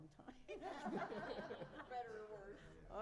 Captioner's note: laughter